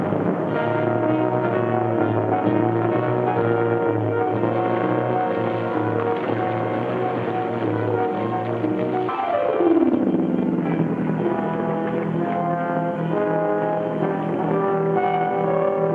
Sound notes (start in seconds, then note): 0.3 dramatic music; 5.4 water laps